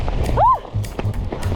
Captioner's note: wind; yelp